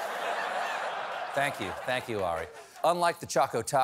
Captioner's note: laughter